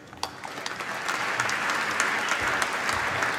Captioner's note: applause